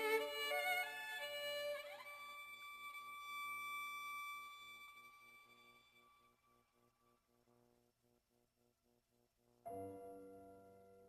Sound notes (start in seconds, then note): none